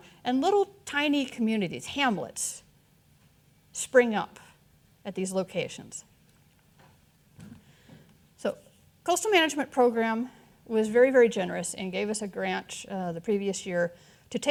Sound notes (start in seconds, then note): none